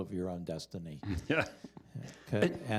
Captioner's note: chuckles